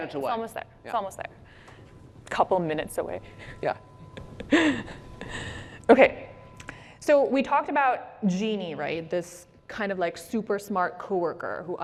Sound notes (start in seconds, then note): 6.4 laughs